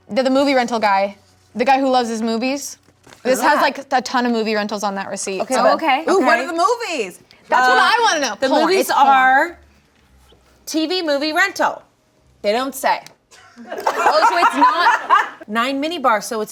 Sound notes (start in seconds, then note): 13.5 audience laughing